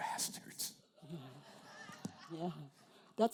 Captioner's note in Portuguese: risos da plateia